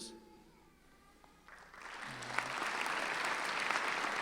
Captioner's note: clapping